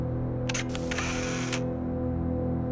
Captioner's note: camera click